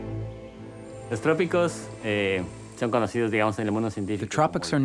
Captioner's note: speaks foreign language